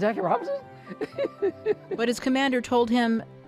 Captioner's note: laughing